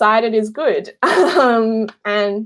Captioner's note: laughing